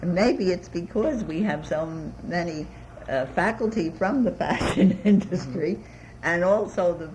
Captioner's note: laughs